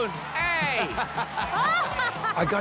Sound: laughter

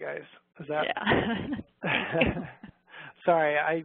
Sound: both laughs

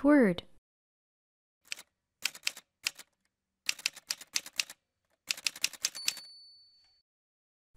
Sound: typewriter sounds

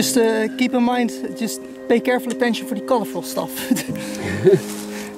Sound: laughs

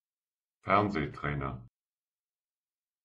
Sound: fast Pronunciation

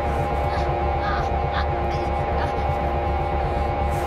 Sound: groaning

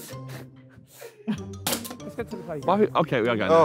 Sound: bottle hitting table

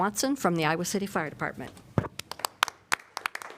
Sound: applause

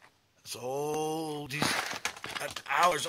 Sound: crash! clunk!

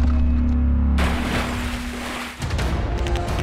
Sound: ship door creaking; water splashing; guns banging

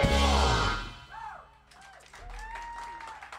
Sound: applause

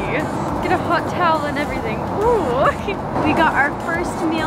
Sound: laughs

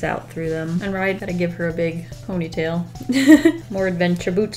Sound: laughs

